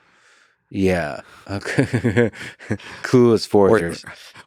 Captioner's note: chuckles